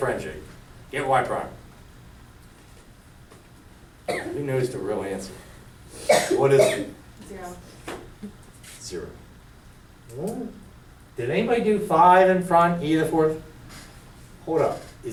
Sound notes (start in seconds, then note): 7.9 voiceover